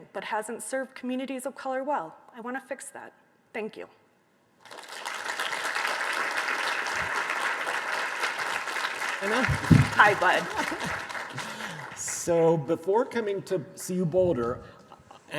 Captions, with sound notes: but hasn't served communities of color well, I wanna fix that. Thank you. (audience applauding) - Anna. - Hi, Bud. - So before coming to CU Boulder,